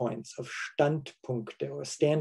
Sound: speaking foreign language

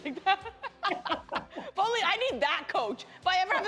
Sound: laughter

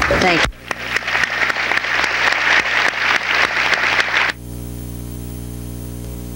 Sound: audience applauding

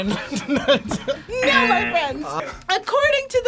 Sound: laughs; buzzer

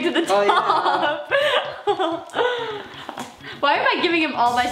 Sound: laughing

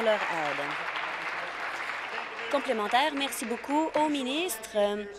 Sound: applause

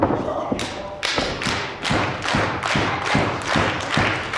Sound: clapping

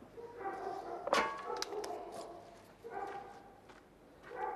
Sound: barking

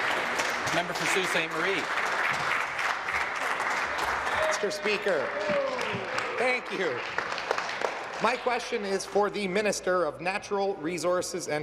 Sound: applause

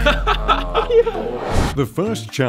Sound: laughter

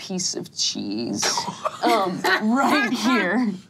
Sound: laughing

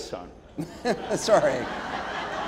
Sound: audience laughing; laughing

